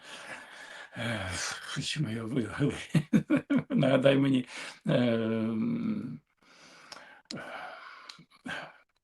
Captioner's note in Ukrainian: сміх